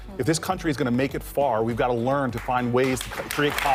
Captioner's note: applause